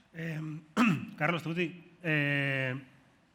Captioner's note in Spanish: carraspea